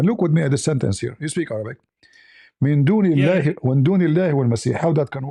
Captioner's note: reads in Arabic